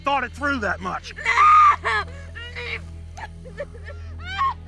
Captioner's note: Alexa screaming